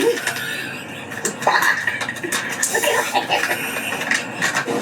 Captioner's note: both laughing